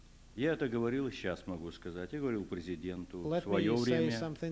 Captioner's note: non-english speech